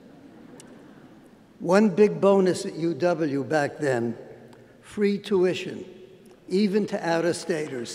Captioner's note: laughter